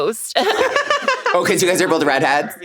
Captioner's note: everyone laughs